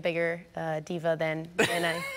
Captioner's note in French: laughter